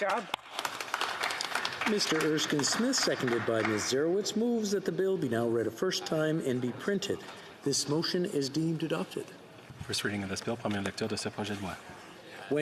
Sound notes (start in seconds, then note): 3.6 some Applause